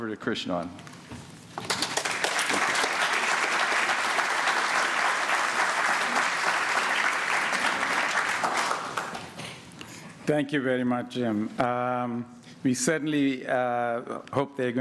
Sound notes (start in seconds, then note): 4.9 applause